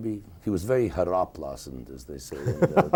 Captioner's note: speaking foreign language; interviewer laughing